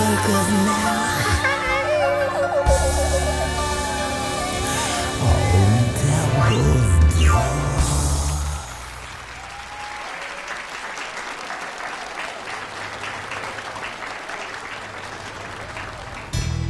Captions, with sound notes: * 'Cause now * Old devil at the door (AUDIENCE APPLAUDING)